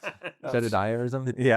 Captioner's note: laughing